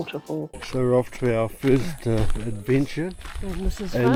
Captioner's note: footsteps